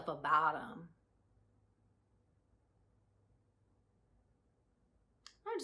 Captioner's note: silence